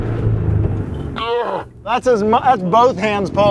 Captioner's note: grunts; grunts in slow motion